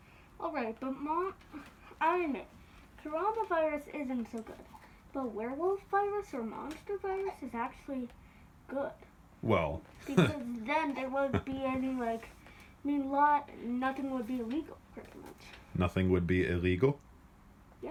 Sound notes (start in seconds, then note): 5.3 in a revelatory tone; 10.0 chuckles; 16.2 incredulous